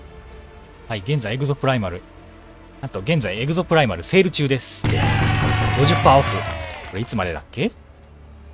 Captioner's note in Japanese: 歓声